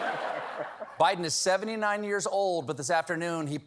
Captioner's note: laughter